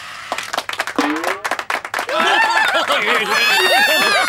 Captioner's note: clapping; laughing